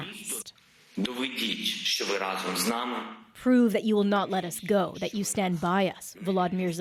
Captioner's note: speaking Foreign Language